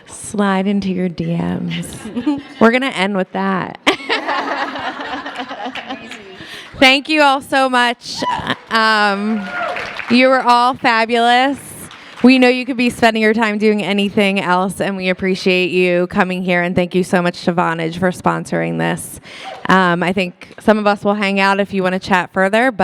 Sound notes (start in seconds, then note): 3.9 all laugh